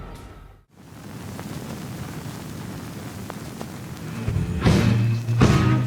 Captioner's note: record noise